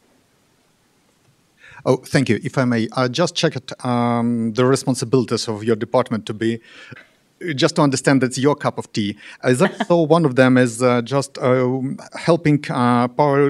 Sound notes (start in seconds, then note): 9.6 laughter